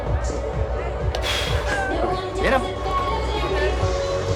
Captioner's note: exhales